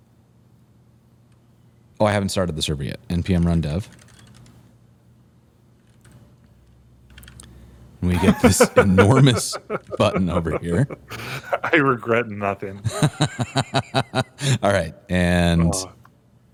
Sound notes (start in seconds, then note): 8.1 laughter